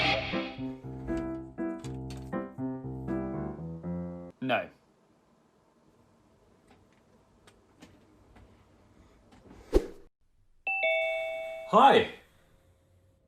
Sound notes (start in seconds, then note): 0.0 jolly music; 4.9 ding